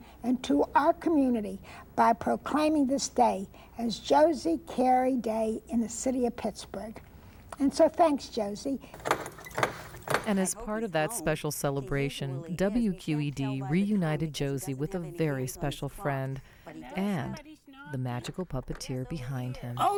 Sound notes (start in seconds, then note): 8.9 knocker thudding